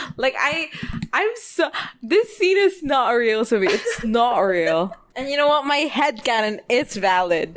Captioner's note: laughs